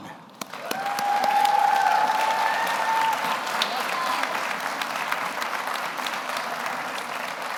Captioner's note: audience applauds; audience cheers